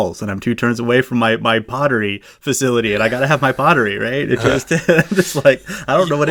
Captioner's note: laughs